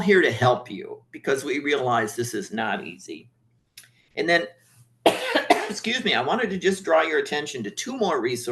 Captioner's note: coughing